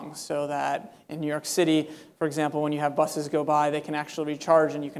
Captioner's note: none